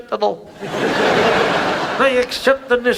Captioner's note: audience laughs